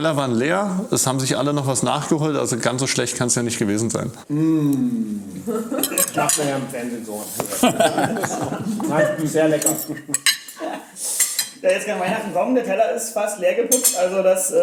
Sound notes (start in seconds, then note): 7.4 Alle lachen